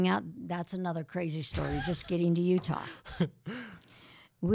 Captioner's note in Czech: Chichotá se